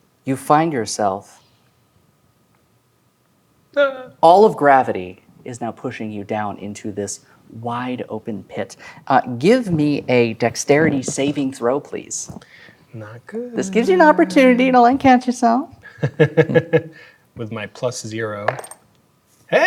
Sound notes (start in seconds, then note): 15.8 laughs; 18.4 dice rolling